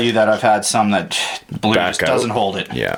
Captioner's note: sighs